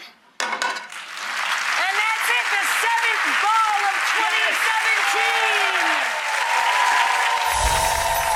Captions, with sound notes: (applause) And that's it, the seventh ball of 2017! (cheering)